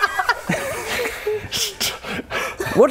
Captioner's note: giggles